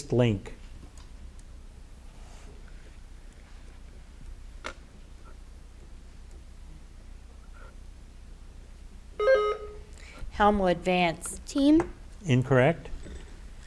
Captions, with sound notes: (button buzzing) - Helmwood, Vance. - Team. - Incorrect